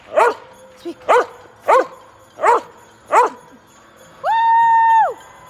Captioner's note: Trevi barking